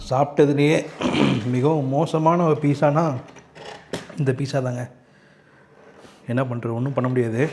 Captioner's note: repairing throat